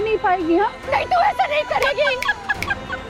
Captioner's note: Salty laughing